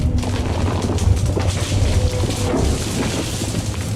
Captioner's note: cracking crash sounds